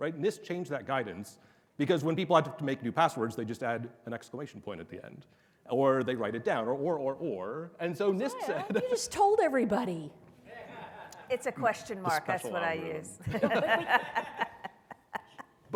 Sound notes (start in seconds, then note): 10.6 audience laughing loudly; 13.3 laughs loudly